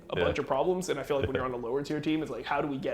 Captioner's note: laughs